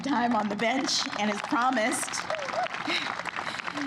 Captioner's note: applause